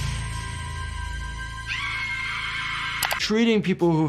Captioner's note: woman screaming